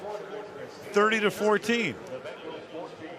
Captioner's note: pa announcement